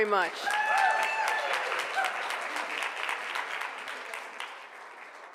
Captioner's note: cheering and applause